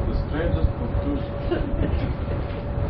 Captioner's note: Gülüyorlar